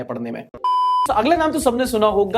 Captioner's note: beep